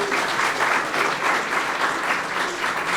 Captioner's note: applause